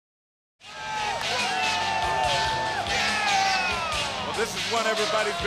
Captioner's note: spectators cheer; dark rock music